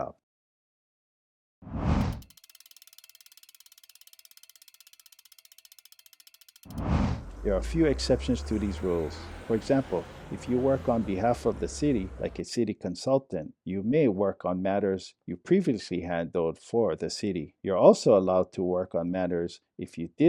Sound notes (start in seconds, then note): 0.3 compass spinning; 0.3 whoosh; 7.2 trolley passes